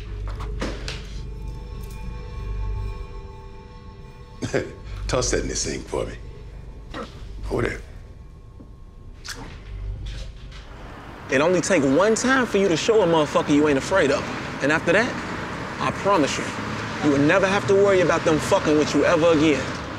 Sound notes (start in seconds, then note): 0.3 ominous music continues; 4.4 Q laughing